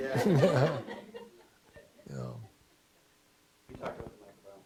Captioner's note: laughing